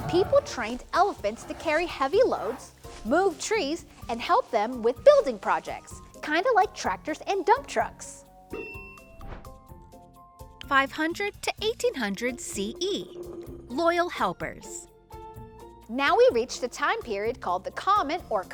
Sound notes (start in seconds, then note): 8.5 bell dings; 9.6 transition whooshes